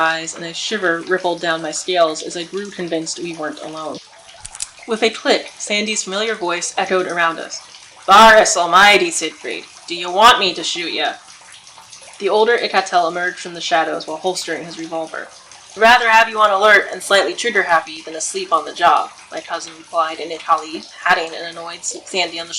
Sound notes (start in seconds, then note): 4.7 a click of a revolver